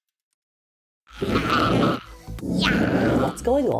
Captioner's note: Robot Flower grunting